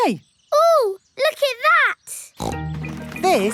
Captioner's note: snorts